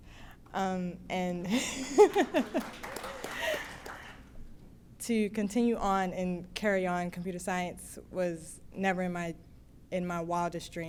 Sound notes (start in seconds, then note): 1.5 laughs; 1.8 applause